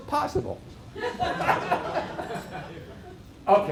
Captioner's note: laughter